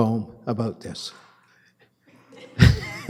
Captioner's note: laughter